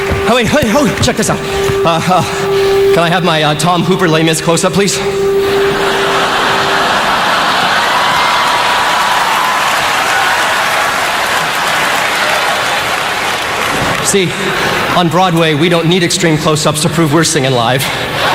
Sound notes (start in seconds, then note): 5.8 laughter; 9.0 cheers, applause